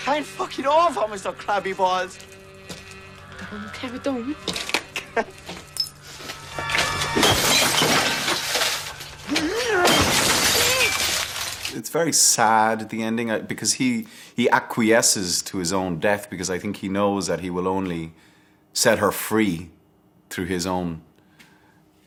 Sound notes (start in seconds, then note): 7.1 bottles shatter